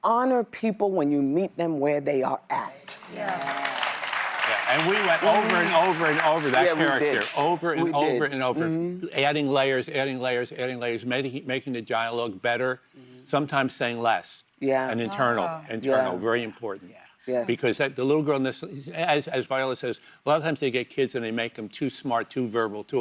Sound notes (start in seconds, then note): 8.5 applause